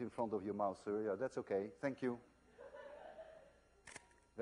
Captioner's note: click